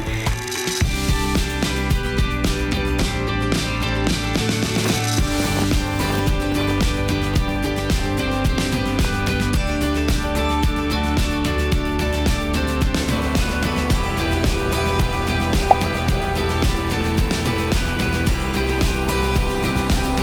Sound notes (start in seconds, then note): 0.3 bright upbeat music; 15.6 air pops; 16.6 cheerful upbeat music